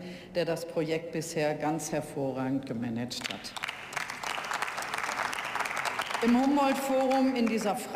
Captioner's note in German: Beifall